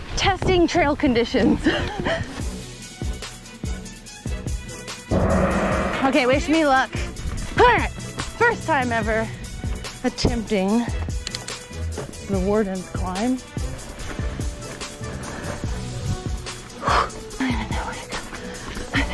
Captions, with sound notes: Testing trail conditions. (upbeat music) (gong chimes) Okay. Wish me luck. First time ever attempting the warden's climb.